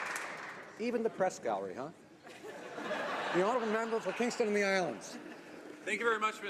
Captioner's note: applause